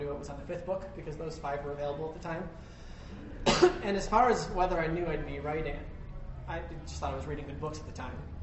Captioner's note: cough